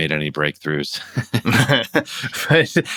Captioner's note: laughter